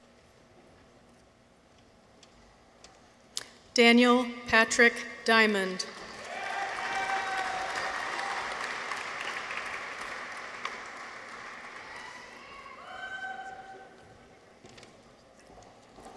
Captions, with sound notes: Daniel Patrick Diamond. -(people cheer) -(audience applauds)